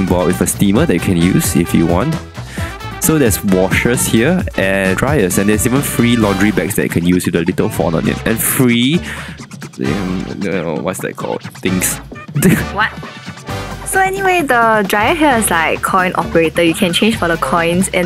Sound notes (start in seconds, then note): 9.5 gremlin noises